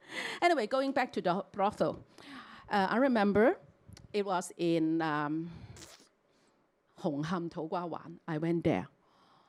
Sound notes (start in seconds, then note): 6.6 Cantonese